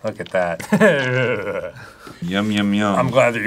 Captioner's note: dan, sideshow bob-esque shuddering